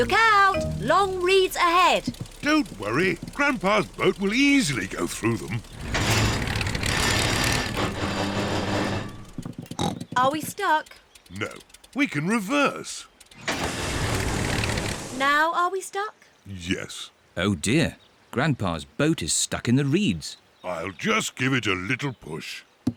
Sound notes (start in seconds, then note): 6.0 clunks and splutters; 9.7 snorts